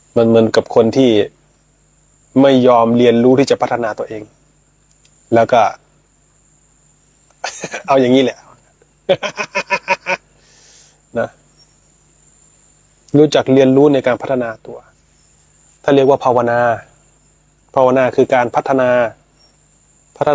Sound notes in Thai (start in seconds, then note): 9.0 เสียงหัวเราะ